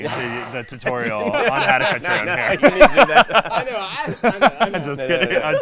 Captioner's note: laughing